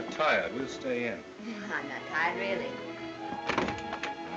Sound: chuckles

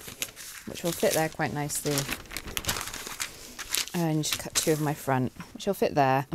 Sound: rustling

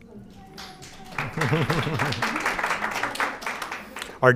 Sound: audience applauding

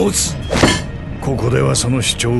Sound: Jack hits table

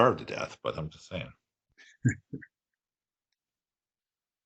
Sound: chuckling

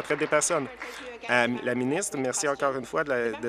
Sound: applause

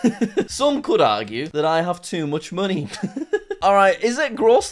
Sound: laughs

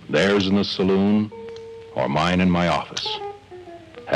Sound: none

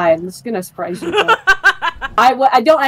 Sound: laugh

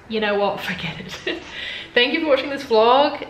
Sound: laughs

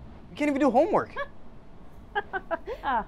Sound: Principal Bishop laughs

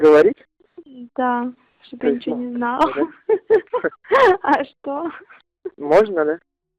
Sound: laughs

